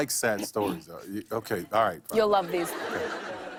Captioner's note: light laughter